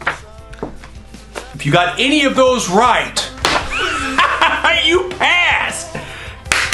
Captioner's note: laughing; clapping